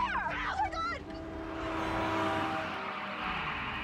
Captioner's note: horn bpieeng